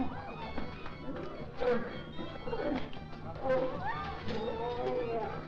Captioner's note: crowd gasping; lion snarling; whip thudding; crowd shouting